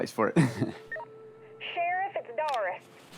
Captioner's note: radio beeps